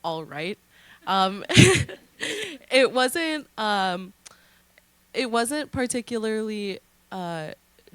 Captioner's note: laughter